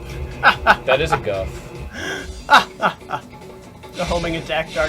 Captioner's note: laughs